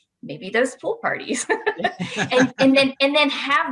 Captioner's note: laughing